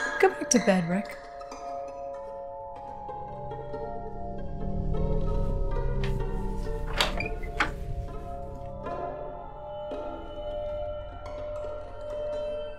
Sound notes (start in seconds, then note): 1.6 uneasy orchestral music; 5.9 door opening